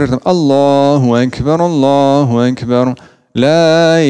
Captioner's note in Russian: Говорит на арабском